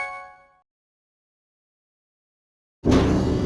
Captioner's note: silence